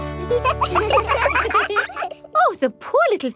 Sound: children laugh

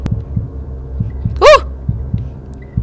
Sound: shouts in surprise

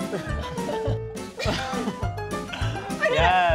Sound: laughter

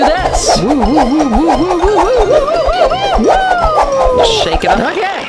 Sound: air whooshing

